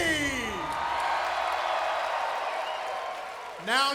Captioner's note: crowd cheering